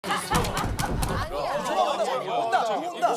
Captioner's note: bang bang